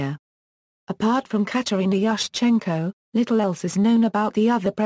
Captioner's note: Ukrainian